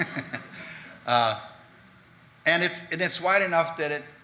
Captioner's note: audience laughing